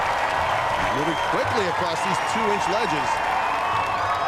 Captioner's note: cheers and applause